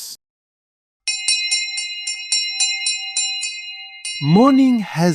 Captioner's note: the morning bell